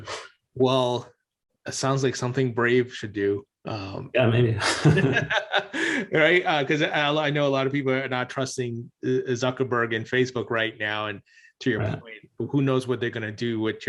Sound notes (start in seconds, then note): 4.6 both laughing